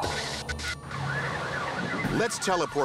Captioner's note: sirens wailing